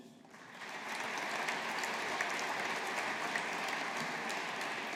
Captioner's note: audience applauding